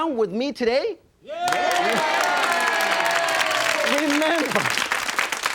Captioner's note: audience cheers and applause